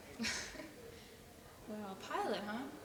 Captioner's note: laughing